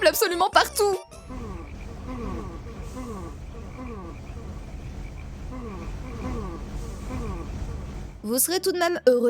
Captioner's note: ambience in play with yawning trees and crickets in the distance